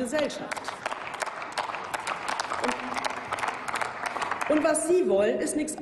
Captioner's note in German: Applaus